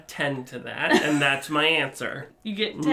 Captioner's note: laughs